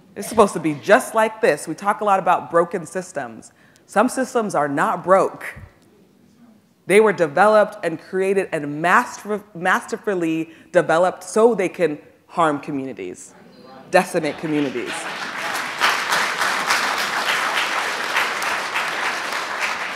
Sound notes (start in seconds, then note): 14.3 audience applauds